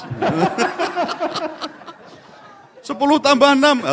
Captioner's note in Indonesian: tertawa